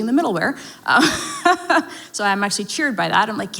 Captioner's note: laughs